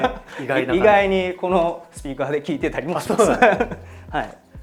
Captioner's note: laughs